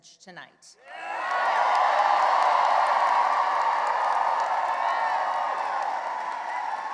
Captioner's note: cheering and applause